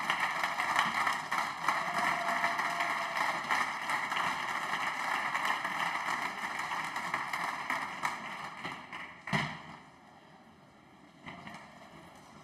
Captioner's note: some Applause